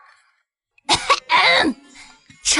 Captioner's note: cough cough